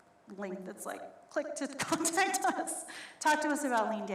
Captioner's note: laughs